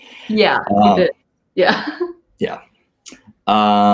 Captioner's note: laughs